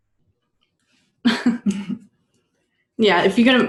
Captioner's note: laughter